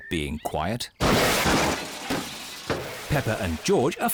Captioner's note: clattering